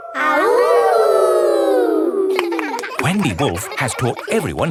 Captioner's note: howling; kids howling